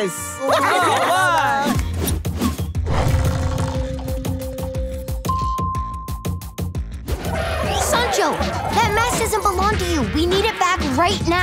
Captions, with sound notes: [cheering] [dinging] Sancho, that mask doesn't belong to you. We need it back right now.